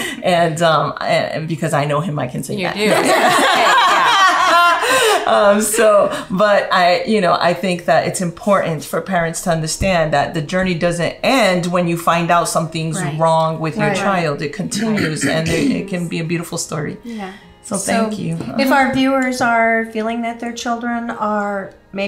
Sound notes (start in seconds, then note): 2.9 everyone laughing